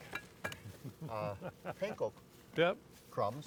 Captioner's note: chuckles